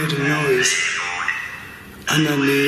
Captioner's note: Ovilus chattering